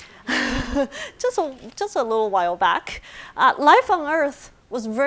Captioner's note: laughs